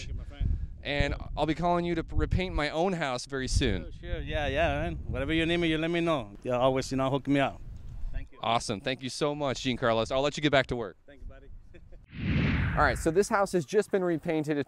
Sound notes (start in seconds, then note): 12.1 whooshing